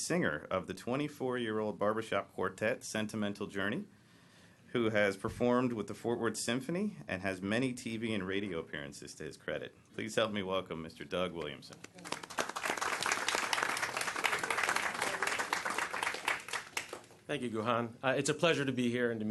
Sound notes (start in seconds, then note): 14.1 applause